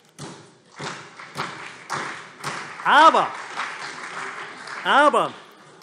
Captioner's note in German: Beifall CDU und vereinzelt SPD